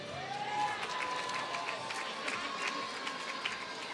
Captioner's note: applause